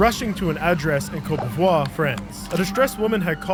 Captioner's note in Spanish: sirena a todo volumen